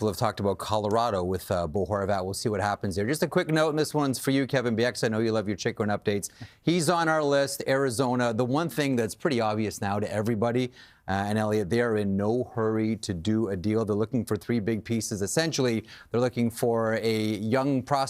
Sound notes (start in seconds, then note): none